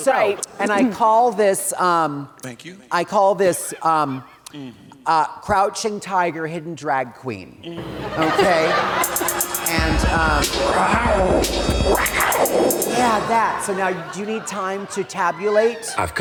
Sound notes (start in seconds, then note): 10.6 mimicking roaring